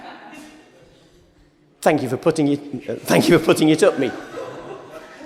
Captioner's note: laughter